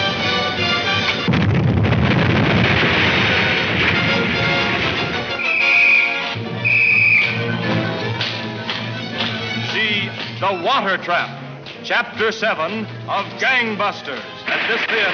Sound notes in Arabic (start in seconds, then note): 1.2 انفجارات متفجرة; 5.3 صافرة تنفخ بشكل محموم